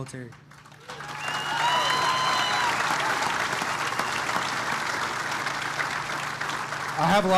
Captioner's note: applause